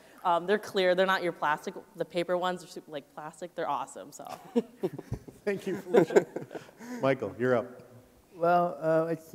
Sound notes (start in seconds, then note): 4.3 chuckles